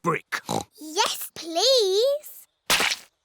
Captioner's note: oinks